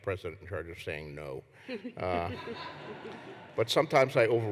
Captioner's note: laughter